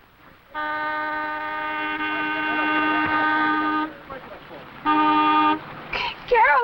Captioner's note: car Horn